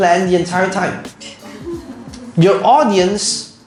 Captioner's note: audience chuckles